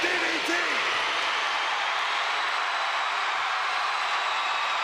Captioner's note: crowd cheering